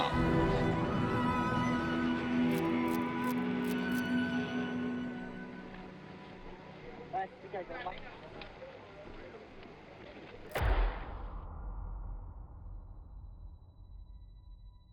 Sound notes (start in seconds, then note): 6.9 person speaks in Vietnamese; 10.5 gun shoots